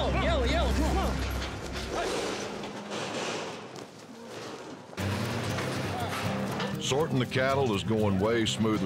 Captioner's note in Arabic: ضربات حوافر، صوت قرع البوابة